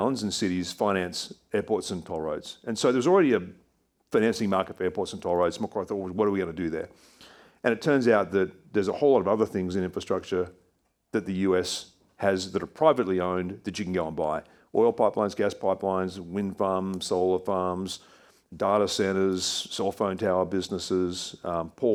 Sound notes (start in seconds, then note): none